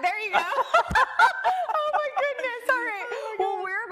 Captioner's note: both laugh